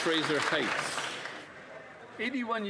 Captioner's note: some Applause